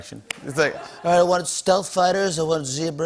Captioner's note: As Trump